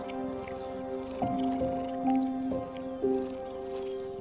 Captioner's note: soft sounds of grooming